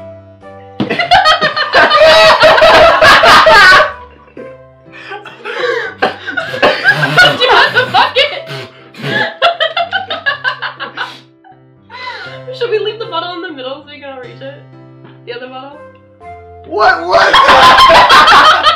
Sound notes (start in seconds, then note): 0.9 laughter from making inexplicable noises; 5.0 laughing